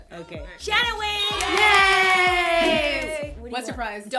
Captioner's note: cheering